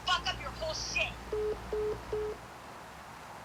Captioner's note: busy line tone